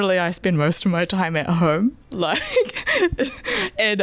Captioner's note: laughing